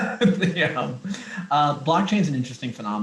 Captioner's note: laughter